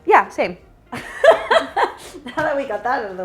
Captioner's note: both laughing